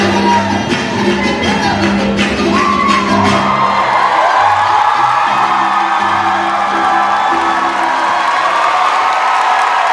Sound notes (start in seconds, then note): 0.0 audience cheering; 0.0 clapping rhythmically; 4.2 cheers and applause